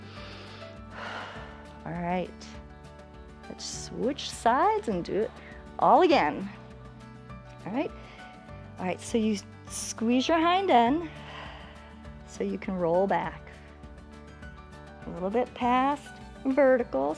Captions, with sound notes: [inhales and exhales] All right. Let's switch sides and do it all again, all right. All right, so you squeeze your hind end [exhales] so you can roll back, a little bit past vertical,